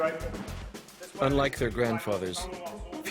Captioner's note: voiceover